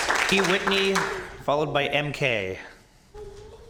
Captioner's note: applause